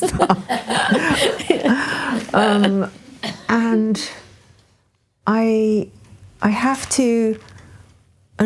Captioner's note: laughing